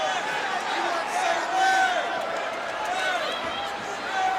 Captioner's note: crowd clamoring